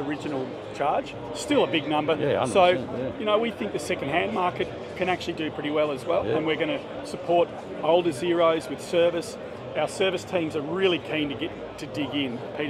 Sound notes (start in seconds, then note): none